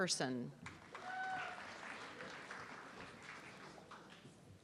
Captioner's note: audience clapping